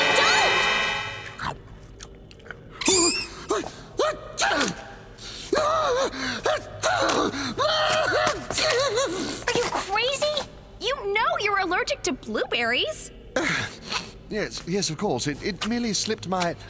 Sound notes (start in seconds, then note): 1.9 chomping; 4.3 sneezing